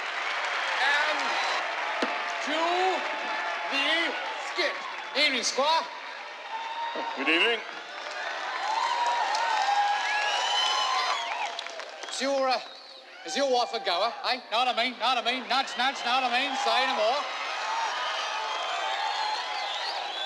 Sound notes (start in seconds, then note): 7.5 crowd cheering